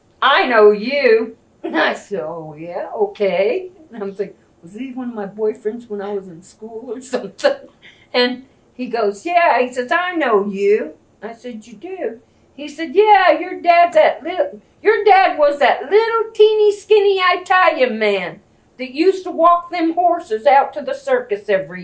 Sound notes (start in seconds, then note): 8.1 laughs